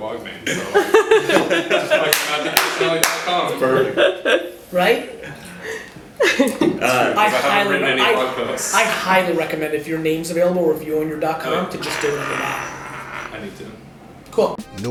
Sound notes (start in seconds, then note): 0.4 laughter; 7.3 voiceover; 13.5 voiceover